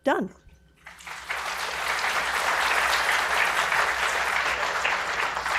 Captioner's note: audience applauding